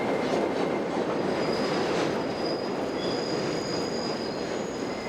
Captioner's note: train wheels screeching